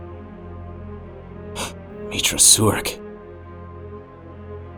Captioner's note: gasps